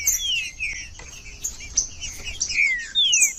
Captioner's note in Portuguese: trinca ferro cantando